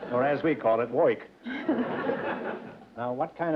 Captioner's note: laughter